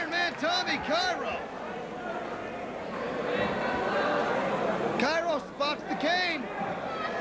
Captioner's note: crowd chatter